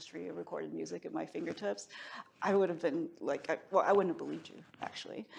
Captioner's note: none